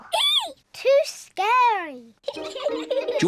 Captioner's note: giggles; both giggle